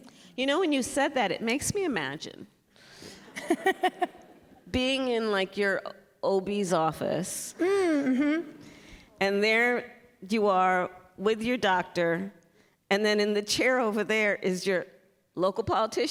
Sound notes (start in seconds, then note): 3.2 laughter